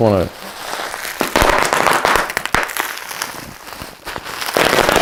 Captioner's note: popping